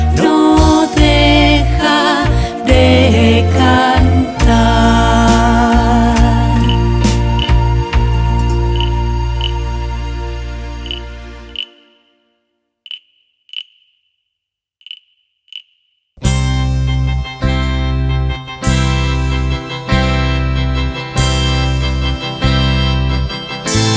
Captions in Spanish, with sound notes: no deja de cantar (Sonido de grillo) (Mùsica de casamiento)